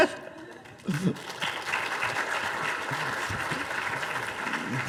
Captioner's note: audience applauding